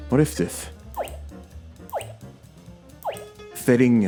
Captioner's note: mouse click sound effect plays